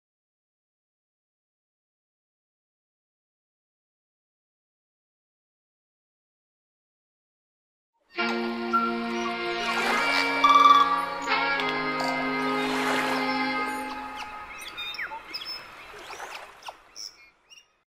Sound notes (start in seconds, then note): 8.1 light music; 8.4 waves murmuring; 14.0 birds chirping